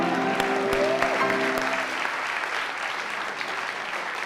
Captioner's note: audience applauding